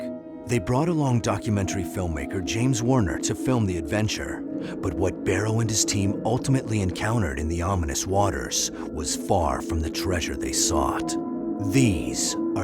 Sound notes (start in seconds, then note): none